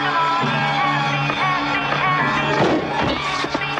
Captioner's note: record skipping